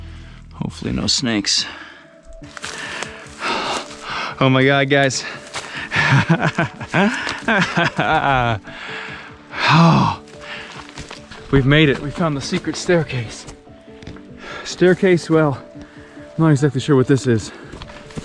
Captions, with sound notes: Hopefully, no snakes. Oh my God, guys. (laughing) (sighing heavily) Oh. We've made it. We've found the secret staircase. Staircase, well, I'm not exactly sure what this is.